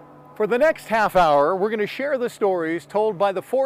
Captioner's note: atmosphere humming